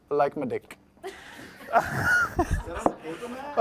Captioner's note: laughter